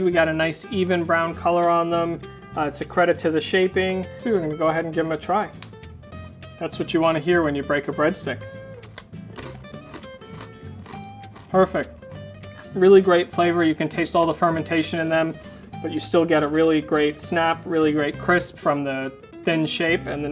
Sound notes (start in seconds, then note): 5.5 breadstick cracks; 8.7 breadstick crunching